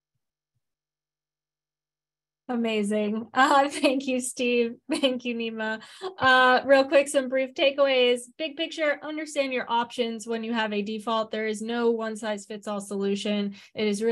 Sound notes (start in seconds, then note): 3.3 chuckles